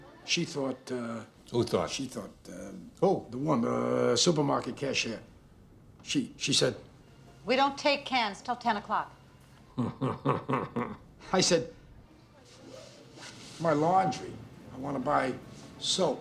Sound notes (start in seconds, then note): 9.7 laughing